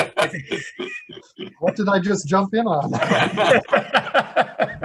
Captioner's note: laughter